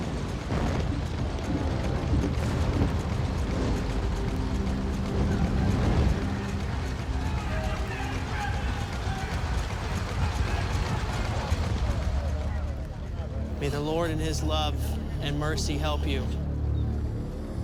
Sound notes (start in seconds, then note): 1.2 suspenseful music; 4.6 chattering